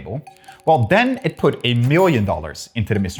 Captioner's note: cash register ka-chings